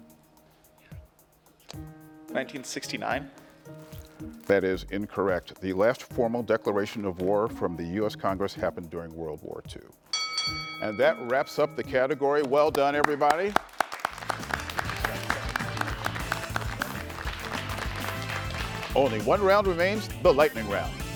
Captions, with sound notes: - 1969. - That is incorrect. The last formal declaration of war from the US Congress happened during World War II. And that wraps up the category. Well done everybody. (attendees clapping) Only one round remains, the lightning round.